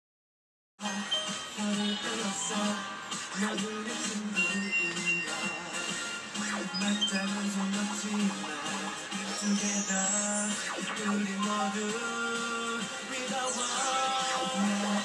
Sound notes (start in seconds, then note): 1.2 background TV noise/music